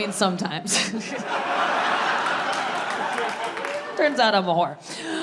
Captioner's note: audience laughing